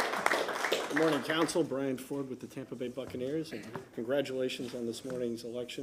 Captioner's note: applause